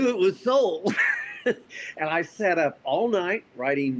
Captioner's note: laughs